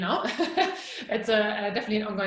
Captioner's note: laughing